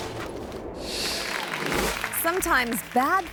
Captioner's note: audience clapping